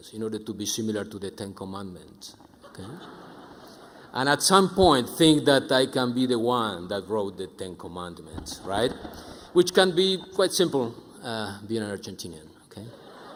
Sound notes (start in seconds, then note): 2.6 audience chuckling; 9.1 audience laughing